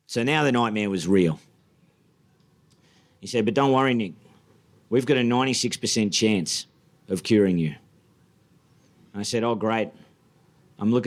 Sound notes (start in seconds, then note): none